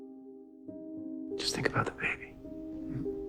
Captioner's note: voiceover